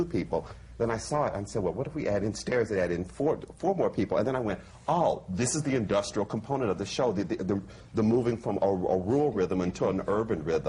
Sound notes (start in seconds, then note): none